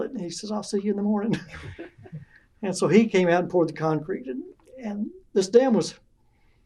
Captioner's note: laughter